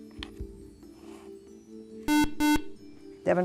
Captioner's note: buzzer